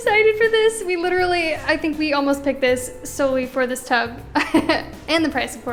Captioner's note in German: Lacht